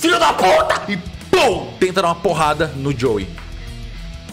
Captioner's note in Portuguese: pow